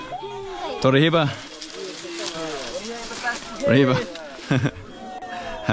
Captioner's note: speaking foreign language